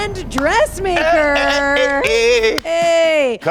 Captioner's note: Karamo cheering